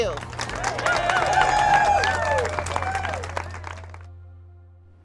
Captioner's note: protesters cheering